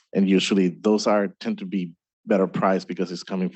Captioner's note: none